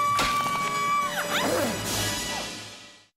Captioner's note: vicki screaming; both grunt